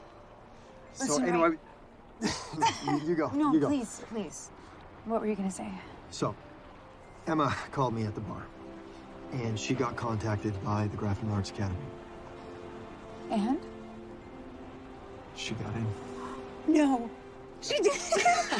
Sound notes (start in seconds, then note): 2.2 chuckling